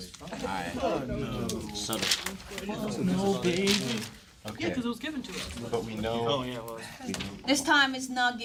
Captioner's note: students murmur